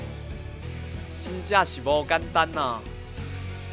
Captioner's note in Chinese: 台語